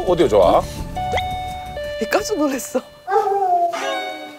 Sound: ding dong/so satisfying; ding dong~

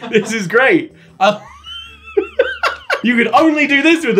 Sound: laughing

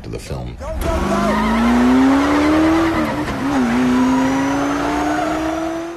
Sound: tires screeching, engine revving

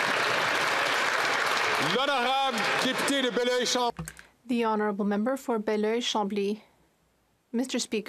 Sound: some Applause

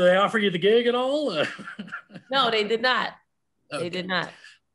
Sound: chuckles

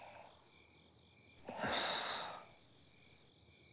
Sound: sighs

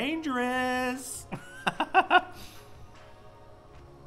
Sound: laughter

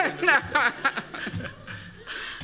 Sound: laughter

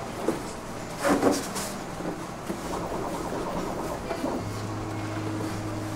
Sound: machinery whirring

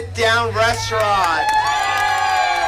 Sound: applause

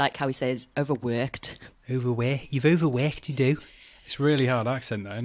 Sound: scouse accent

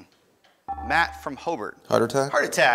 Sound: ding

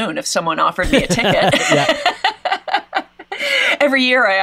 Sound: both laughs

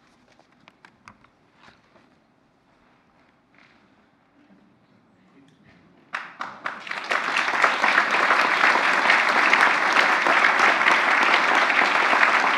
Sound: applause

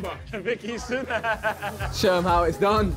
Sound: Harry Laughs

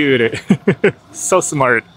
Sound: laughs

